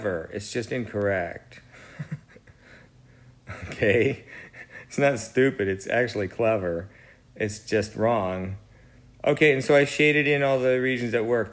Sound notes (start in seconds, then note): 3.4 laughs